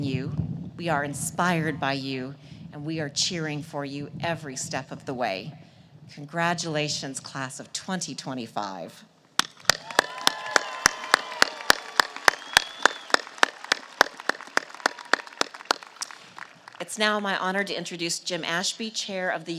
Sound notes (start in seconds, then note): 9.6 applause